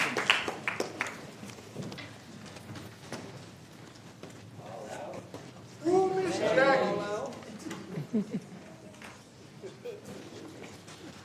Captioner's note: applause